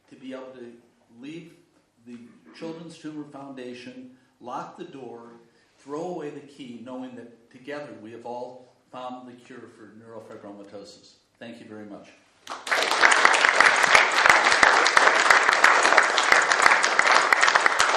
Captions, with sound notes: to be able to leave the Children's Tumor Foundation, lock the door, throw away the key knowing that together we have all found the cure for neurofibromatosis. Thank you very much. (audience applauding)